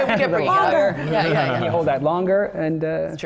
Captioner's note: laughter